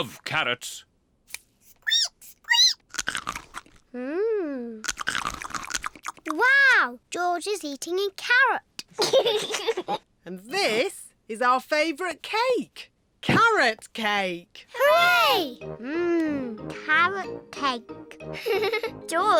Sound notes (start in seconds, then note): 1.8 squeaks and crunches; 8.9 giggles